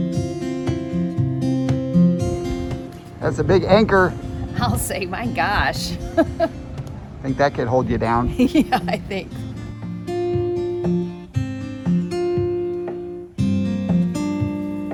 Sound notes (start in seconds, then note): 5.7 laughs; 8.2 laughs; 10.2 soft acoustic guitar